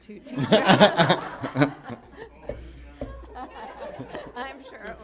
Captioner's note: laughter